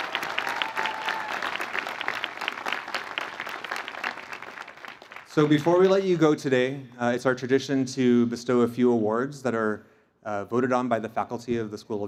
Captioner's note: cheers and Applause